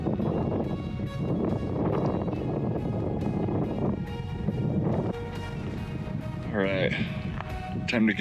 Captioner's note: wind blowing